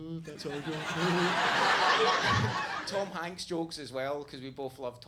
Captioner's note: audience laughs